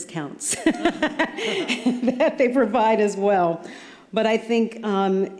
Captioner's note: laughter